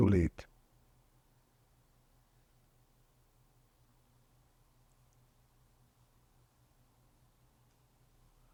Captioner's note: pauses 8 seconds